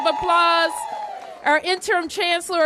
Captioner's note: applause